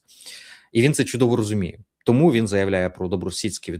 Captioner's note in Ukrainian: сопіння